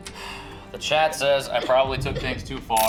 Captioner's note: gentle suspenseful music; Kira coughing